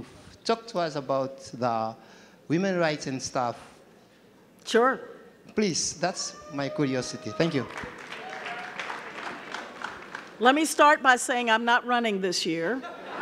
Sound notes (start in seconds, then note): 7.3 audience clapping